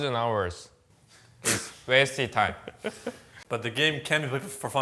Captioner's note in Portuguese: risos